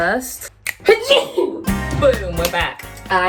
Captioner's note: sneezes